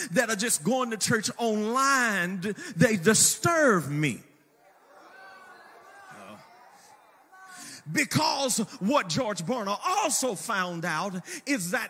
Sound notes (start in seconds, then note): 4.4 congregation cheers